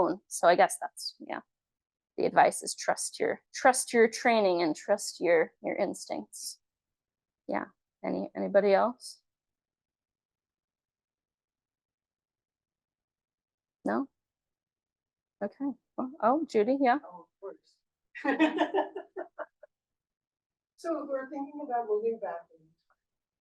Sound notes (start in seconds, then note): 18.2 laughs